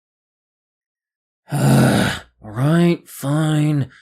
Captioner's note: annoyed groan